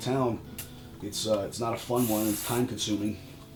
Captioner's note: spraying